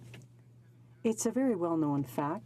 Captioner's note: speaking French